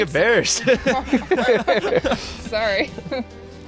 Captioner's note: laughter